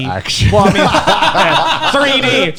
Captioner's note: laughs